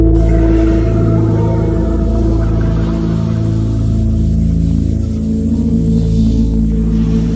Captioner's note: ominous music; water splashing